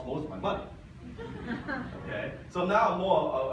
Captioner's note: audience laughs